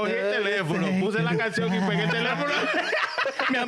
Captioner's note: speaking In Foreign Language